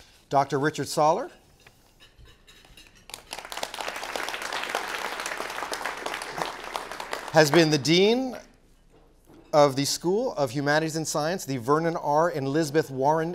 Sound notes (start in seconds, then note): 3.0 applause